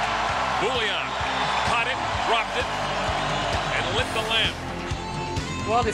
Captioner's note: crowd cheers